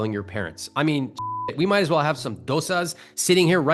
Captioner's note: beep